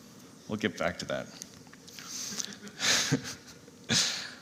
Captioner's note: laughter